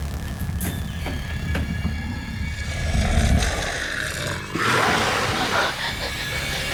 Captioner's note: loud growling; snarling